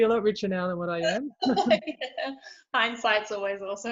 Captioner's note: both laugh